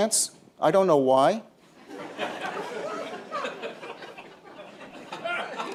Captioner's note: laughter